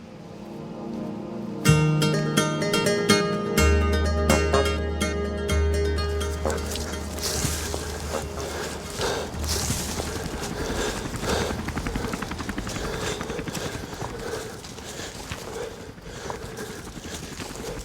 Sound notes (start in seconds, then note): 0.1 calm music; 9.7 heavy breathing; 9.7 helicopter blades spinning